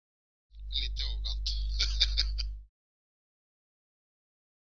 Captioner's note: laugh